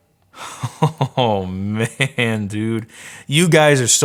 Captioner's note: laughs